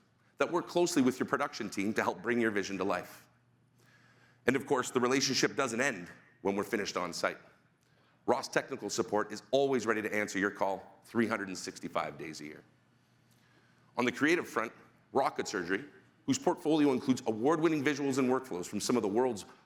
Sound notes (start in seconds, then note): none